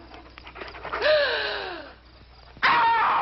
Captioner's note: Priscilla gasps; Priscilla screaming